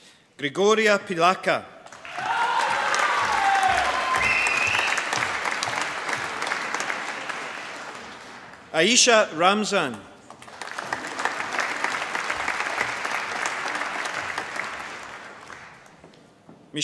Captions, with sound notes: Grigoria Pliaka. (APPLAUSE) Aaisha Ramzan. (APPLAUSE)